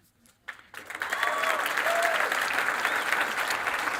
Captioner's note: applause and cheering